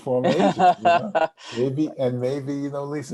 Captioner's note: laughs